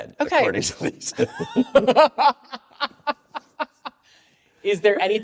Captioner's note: all laugh